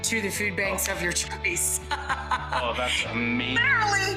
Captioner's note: laughing